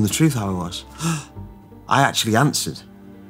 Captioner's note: gasps